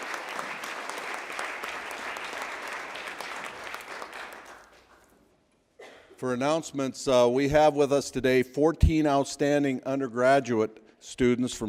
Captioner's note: applause